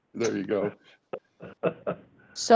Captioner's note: laughter